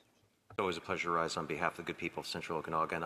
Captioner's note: speaking French